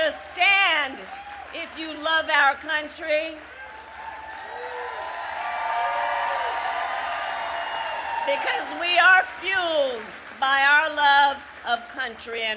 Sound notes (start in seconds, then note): 4.2 applause